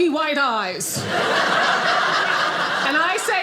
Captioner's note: audience laughing